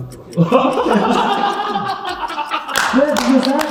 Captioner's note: everyone laughs